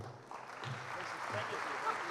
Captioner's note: applause